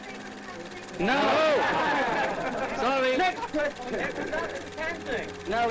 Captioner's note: overlapping chattering